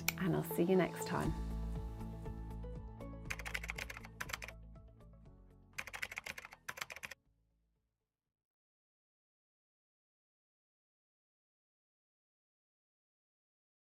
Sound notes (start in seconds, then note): 3.1 light music; 4.0 typing